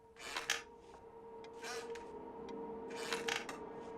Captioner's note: chair creaks